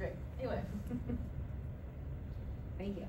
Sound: light Laughter

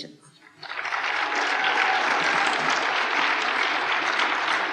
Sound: applause

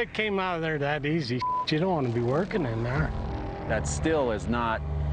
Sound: beep

